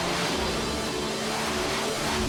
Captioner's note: jets zip